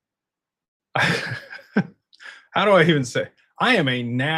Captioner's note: laughter